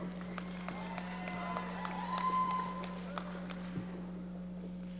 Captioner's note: audience applauding